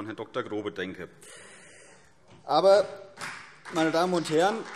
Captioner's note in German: Beifall CDU und BÜNDNIS 90/DIE GRÜNEN